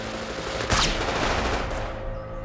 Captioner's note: gunshot